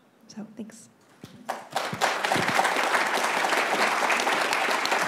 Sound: clapping

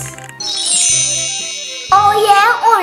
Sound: magic sound chimes

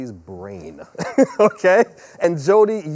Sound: laughing

